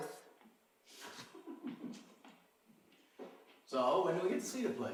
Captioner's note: laughing